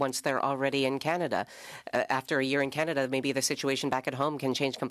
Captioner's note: speaking French